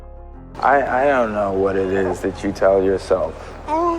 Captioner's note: voiceover